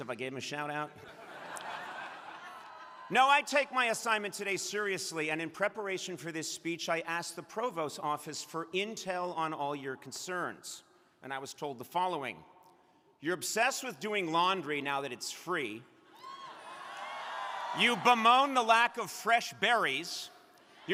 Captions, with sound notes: if I gave 'em a shout out. (crowd laughing) No, I take my assignment today seriously, and in preparation for this speech, I asked the provost office for intel on all your concerns, and I was told the following. You're obsessed with doing laundry now that it's free. You bemoan the lack of fresh berries.